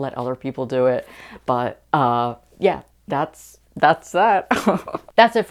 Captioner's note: laughing